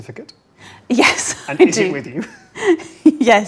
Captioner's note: laughs